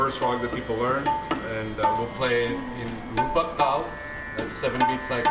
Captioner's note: non-english